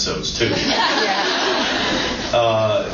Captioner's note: laughs